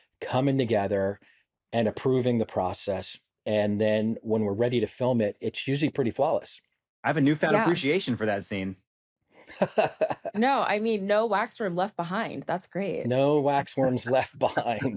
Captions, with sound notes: coming together and approving the process. And then when we're ready to film it, it's usually pretty flawless. I have a newfound appreciation for that scene. -(LAUGHS) -No, I mean, no waxworm left behind. That's great. No waxworms left behind.